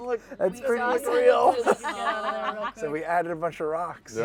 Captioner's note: laughter